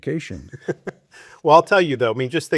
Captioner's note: laughing